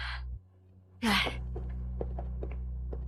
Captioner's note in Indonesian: Menghela napas